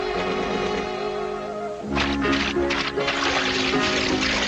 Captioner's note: mud splashing; light, airy music